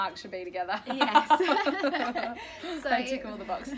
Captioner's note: laughter